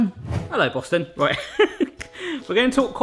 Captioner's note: laughs